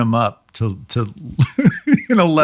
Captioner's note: laughing